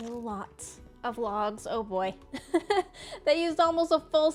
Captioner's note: laughs